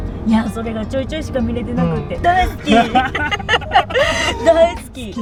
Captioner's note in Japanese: 笑い